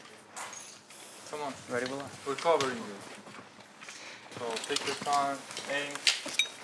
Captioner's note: none